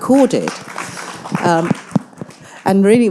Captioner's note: audience applauding